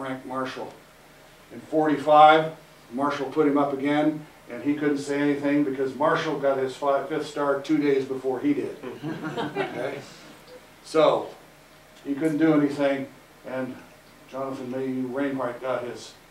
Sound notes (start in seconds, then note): 8.9 audience Laughter